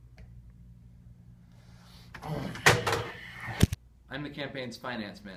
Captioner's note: groans, slams phone, then proceeds to bang head against desk